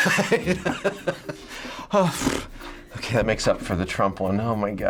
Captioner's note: sighing in relief